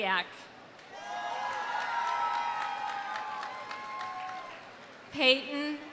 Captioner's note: audience cheering; audience applauding